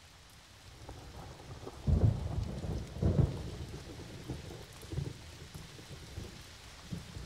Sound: glass clinking; thunder rumbling; rain pattering continues

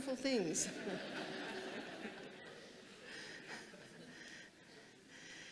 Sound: audience chuckling

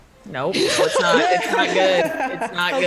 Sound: laugh

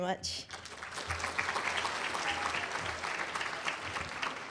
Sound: applause

